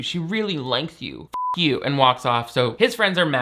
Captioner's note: beep